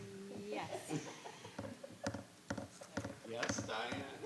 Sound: member laughs

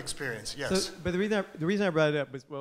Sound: voiceover

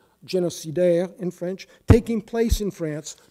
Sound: speaking in foreign language

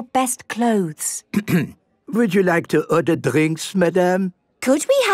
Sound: clears throat

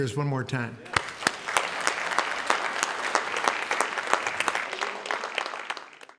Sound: applause

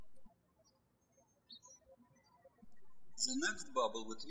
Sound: birds chirping

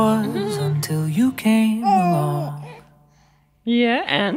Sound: laughs; giggles

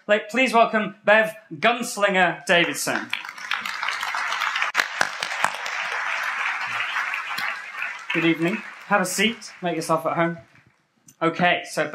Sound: applause

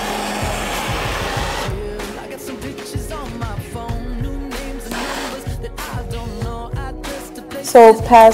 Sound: torch sounds

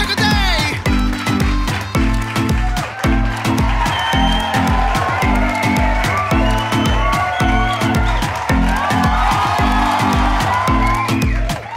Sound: cheering and clapping

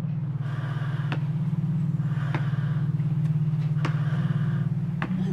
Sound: ventilated breathing intensifies

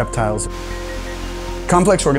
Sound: falling water

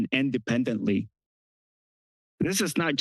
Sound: pause

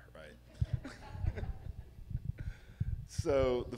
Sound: laughs

